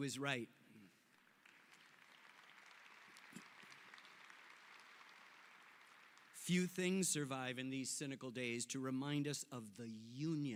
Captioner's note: applause